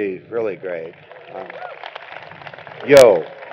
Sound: applause

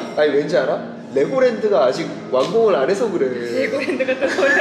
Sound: hehehehe

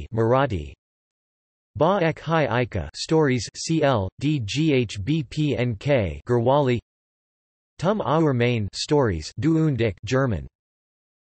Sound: German

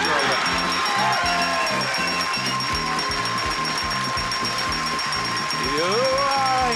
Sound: audience clapping; upbeat music

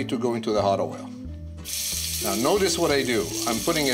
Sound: sizzles

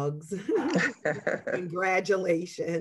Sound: both laughing

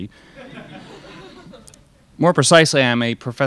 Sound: crowd laughs

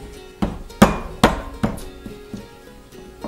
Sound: pounding

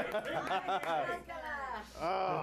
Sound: applause

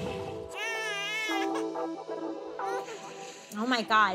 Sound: baby cries

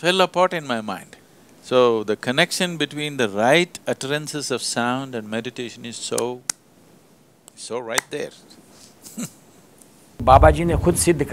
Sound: laughs; speaks in Hindi – not transcribed

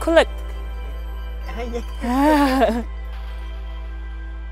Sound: chuckling

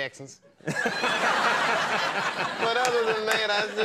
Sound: laughing

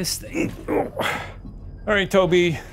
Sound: groans

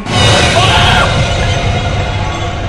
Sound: screams

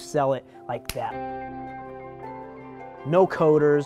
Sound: fingers snapping

